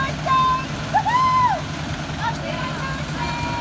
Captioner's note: cheering